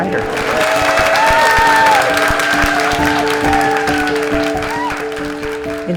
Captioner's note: cheering and applause